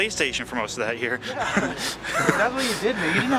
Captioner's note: laughing